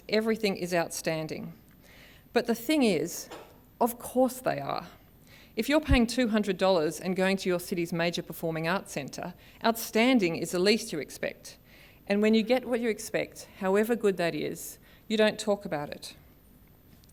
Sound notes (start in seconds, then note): none